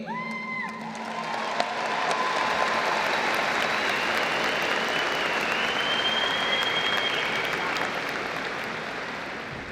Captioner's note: applause